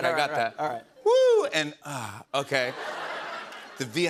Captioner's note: laughter